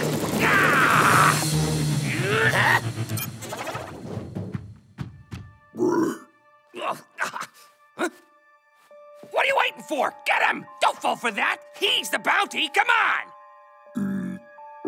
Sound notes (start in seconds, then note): 0.3 yells; 2.9 beeps; 5.7 groaning